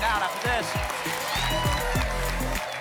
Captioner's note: applause and cheering